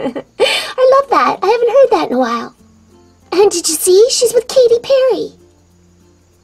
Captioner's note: giggles